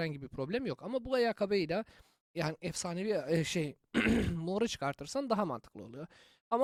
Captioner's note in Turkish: boğazını temizler